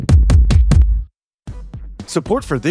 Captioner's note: screen thumping